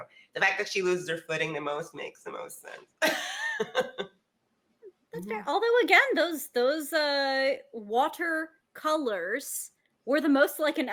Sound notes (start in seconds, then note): 3.1 laughs